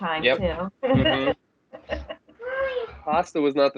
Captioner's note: laughter